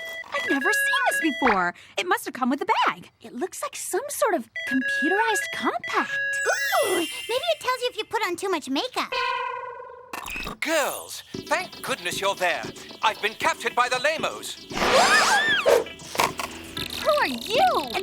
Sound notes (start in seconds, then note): 14.2 beeping